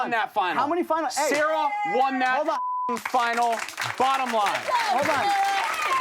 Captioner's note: beep